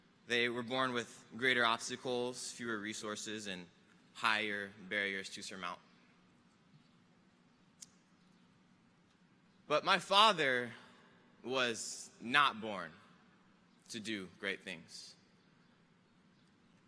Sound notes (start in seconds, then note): none